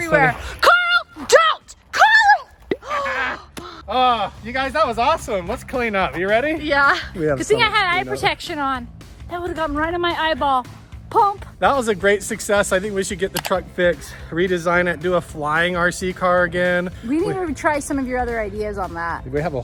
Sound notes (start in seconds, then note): 3.6 gasps; 3.9 laughs